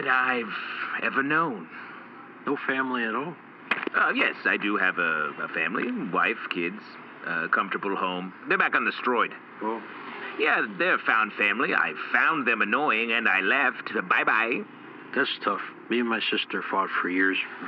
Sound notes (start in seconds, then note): 10.4 impishly